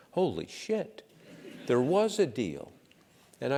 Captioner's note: laugh